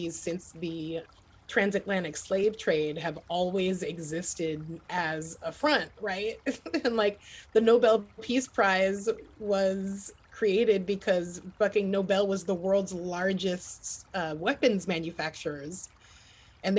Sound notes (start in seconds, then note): 6.4 chuckles